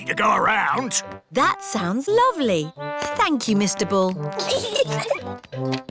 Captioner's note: peppa and george giggle